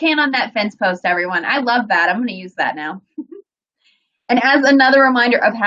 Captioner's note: giggles